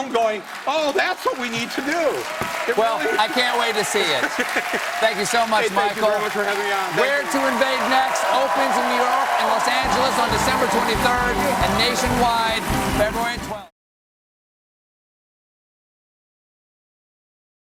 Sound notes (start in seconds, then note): 6.7 applause